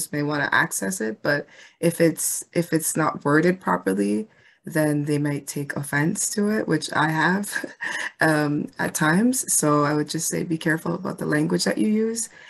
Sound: chuckles lightly

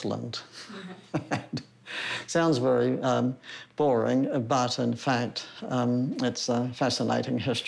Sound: chuckles

